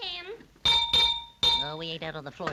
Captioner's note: hammer clanging